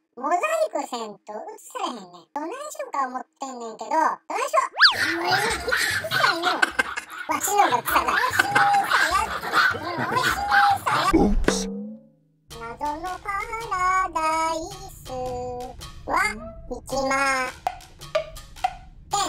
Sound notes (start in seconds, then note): 5.0 laughter; 9.4 boss monkey voice